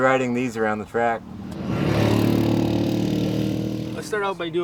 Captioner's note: engine rumbling